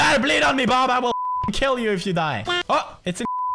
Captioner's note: beep